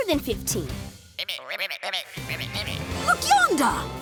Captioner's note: croaking